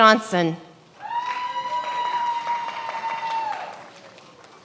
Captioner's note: many applauding